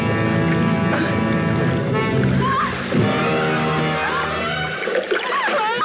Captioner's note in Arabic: صوت الماء - شهقات المرأة وصرخاتها; صرخات المرأة